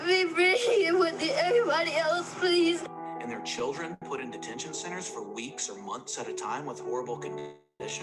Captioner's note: child crying while speaking